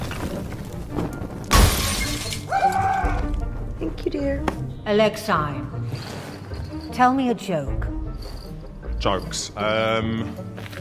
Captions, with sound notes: (glass shattering) (man screaming) - Thank you, dear. - Alexi, tell me a joke. - Jokes. Um.